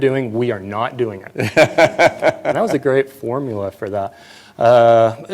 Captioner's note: laughter